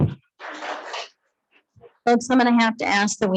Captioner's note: attendees clapping